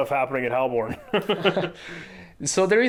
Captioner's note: both laughing